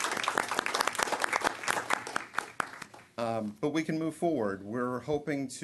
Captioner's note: applause